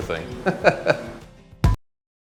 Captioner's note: laughs; upbeat music